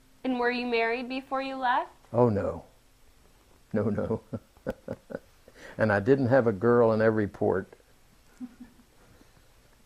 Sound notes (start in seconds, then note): 3.8 laughs; 8.4 laughter